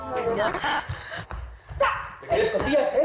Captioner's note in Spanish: Voces distorsionadas